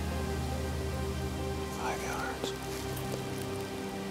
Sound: whispering

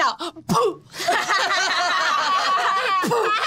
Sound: laughter

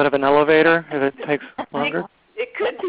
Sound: laughter

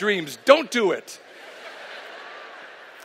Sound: laughter

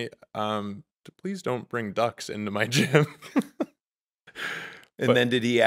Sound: laughing

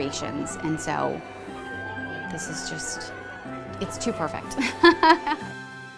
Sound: laughter

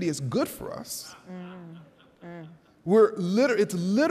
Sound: attendee laughing

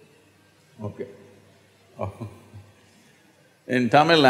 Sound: laughs

